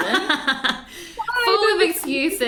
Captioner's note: laughs